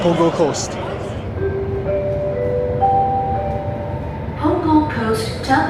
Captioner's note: announcement chime